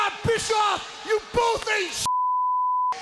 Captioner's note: beep